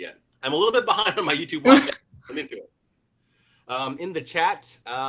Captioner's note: laughs